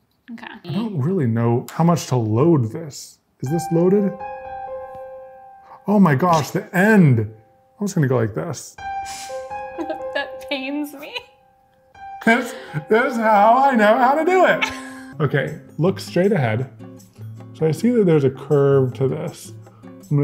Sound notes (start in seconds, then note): 4.7 tense piano music; 10.0 laughing